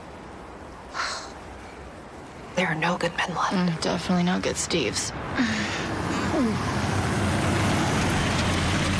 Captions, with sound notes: - There are no good men left. - Mm, definitely no good Steves. (gagging)